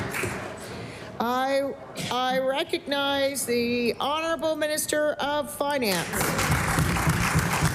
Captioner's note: applause